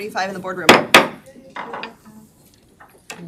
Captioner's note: gavel clacks